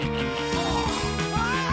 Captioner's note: groans